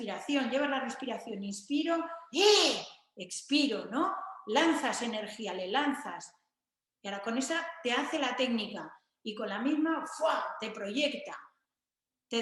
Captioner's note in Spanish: kiai